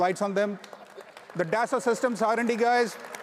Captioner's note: audience applauds